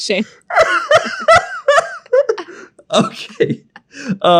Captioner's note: laughs